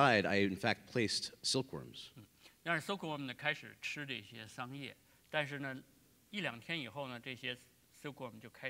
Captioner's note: speaking in Chinese